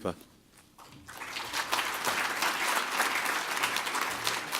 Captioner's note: applause